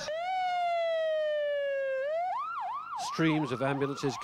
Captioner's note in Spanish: sonido de sirenas